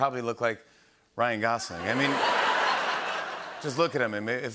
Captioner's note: laughter and applause